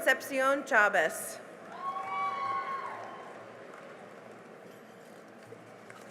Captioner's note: cheering and applause